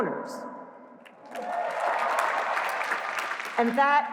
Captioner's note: cheers